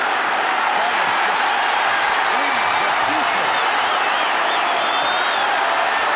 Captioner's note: audience cheering